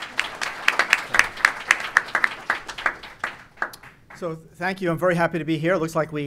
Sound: applause

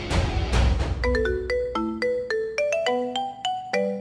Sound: cellphone ringing

